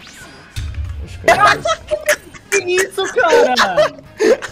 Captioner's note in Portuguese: risos